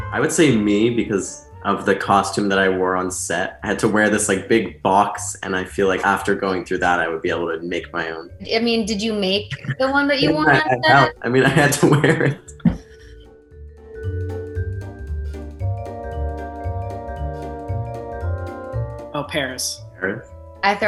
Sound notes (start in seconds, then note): 9.2 laughing; 14.3 playful, cheery music